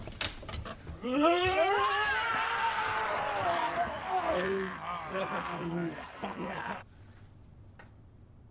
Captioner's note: yelling